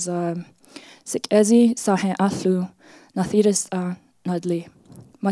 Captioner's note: speaks foreign language